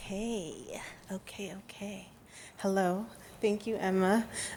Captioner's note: none